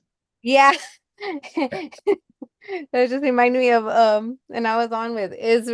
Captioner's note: chuckles